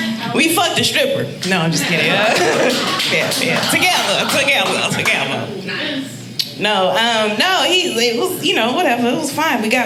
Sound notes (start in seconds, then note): 1.8 audience laughing